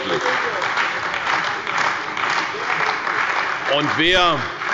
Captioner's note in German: Beifall bei der CDU und dem BÜNDNIS 90/DIE GRÜNEN – Zurufe von der SPD